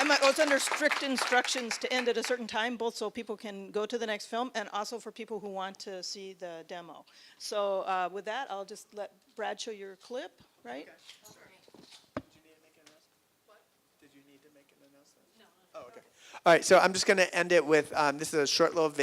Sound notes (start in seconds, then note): 11.8 voiceover